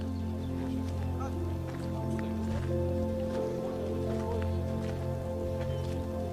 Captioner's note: gentle music continues; tourists chattering